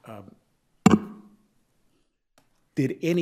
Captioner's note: object bangs